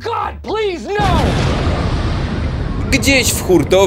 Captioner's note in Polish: boom!